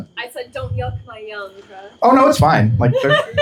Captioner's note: laughter